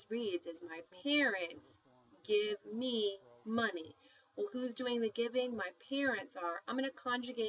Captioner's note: speaking spanish